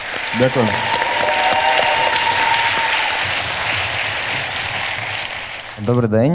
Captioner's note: the audience cheers